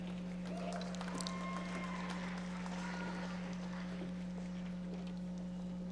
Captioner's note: audience members applauding